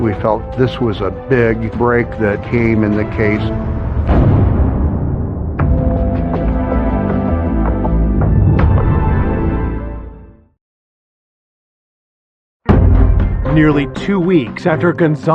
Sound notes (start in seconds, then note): 3.8 door slams; 5.4 dramatic music